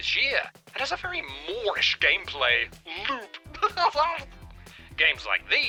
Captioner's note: laughs